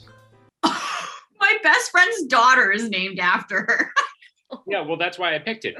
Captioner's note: scoffs